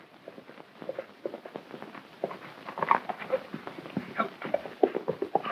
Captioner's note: hooves clomping